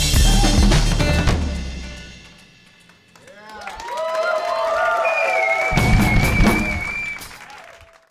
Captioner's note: applause